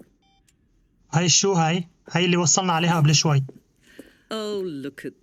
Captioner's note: chuckling